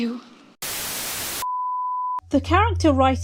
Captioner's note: static